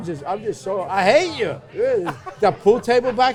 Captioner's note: laughs